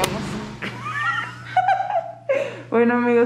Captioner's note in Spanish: Risas